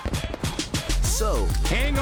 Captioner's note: SFX: Roars, screams, fireworks